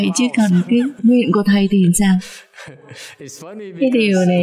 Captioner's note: laughter